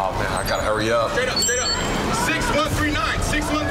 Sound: digital beeping

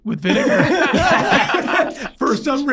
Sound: all laughing

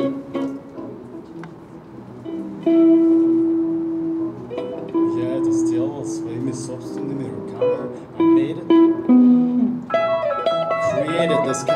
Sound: another language

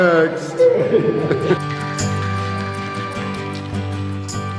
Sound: laughter

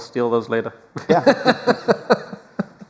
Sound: laughter

